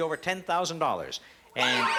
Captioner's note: alarm